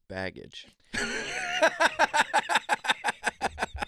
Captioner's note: laughing